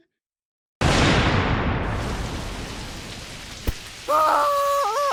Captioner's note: thunder crash, raining